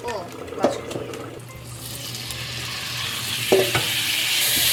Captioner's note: sizzle sizzle